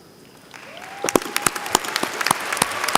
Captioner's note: applause